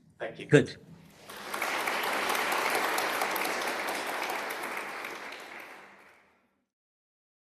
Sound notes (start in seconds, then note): 1.1 applause